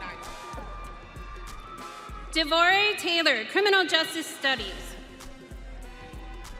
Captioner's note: audience cheering